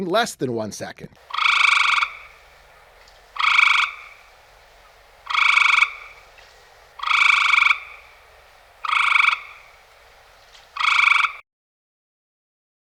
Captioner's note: Cope's gray treefrog call